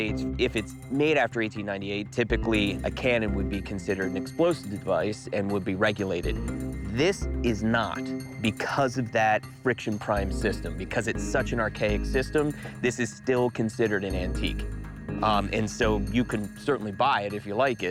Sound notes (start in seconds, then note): none